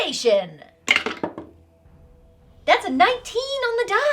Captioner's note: dice rattling